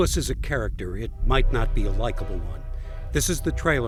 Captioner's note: train horn blows